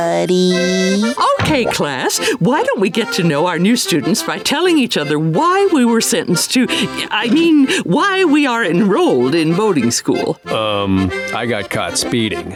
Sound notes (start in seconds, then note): none